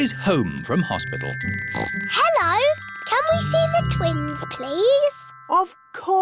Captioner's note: oinks